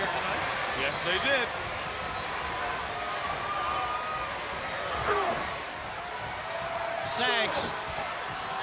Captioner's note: crowd cheering